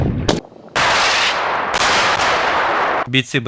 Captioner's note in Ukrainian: Стріляють з РПГ